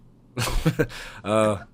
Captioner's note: laughs